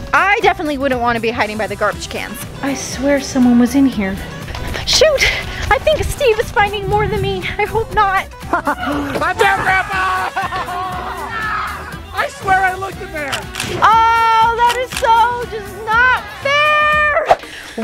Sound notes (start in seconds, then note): 8.4 laughs; 9.5 grandpa screams; 13.3 picture clicks